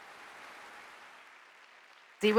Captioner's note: audience applauding